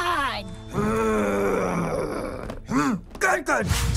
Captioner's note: growls